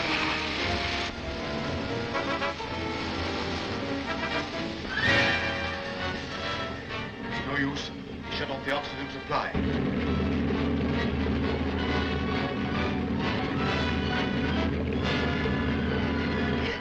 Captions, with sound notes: (tense dramatic music) - It's no use, he shut off the oxygen supply. (tense dramatic music) (submarine rumbling)